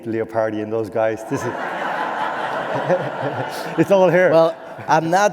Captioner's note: laughter